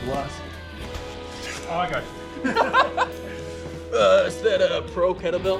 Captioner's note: both laugh